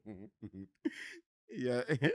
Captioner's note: chuckles